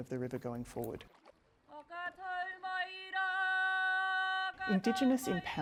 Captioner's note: non-english speech